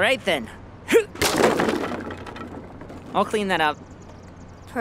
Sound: crash

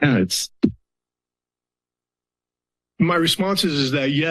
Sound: silence

